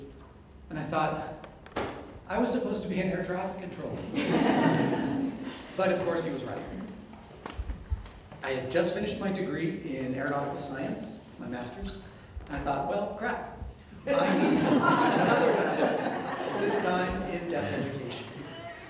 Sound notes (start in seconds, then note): 4.1 audience Laughter; 14.0 audience Laughter